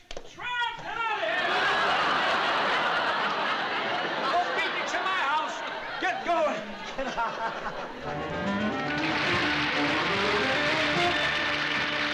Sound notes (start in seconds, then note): 6.7 laughs